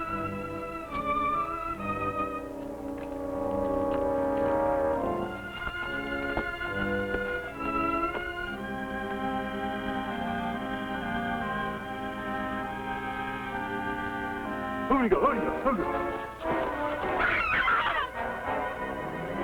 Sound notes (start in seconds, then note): 14.7 hairy men grunting; 16.4 Myrna screaming